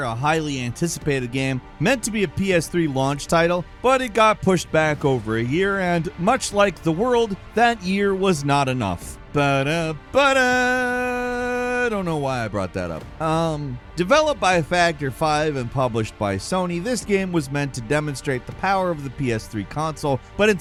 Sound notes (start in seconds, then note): 10.5 humming